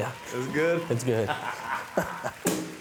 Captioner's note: both laughing